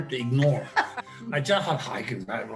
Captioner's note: laughter